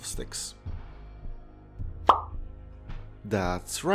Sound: pop

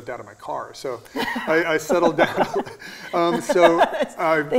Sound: laughing

